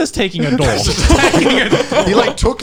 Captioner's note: laughing